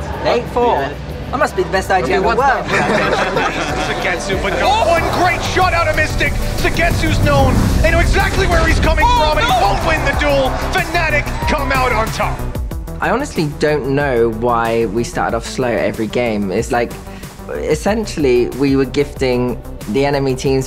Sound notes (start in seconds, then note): 2.0 players laughing